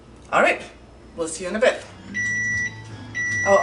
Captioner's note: oven timer is beeping